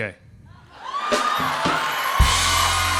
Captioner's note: cheers and applause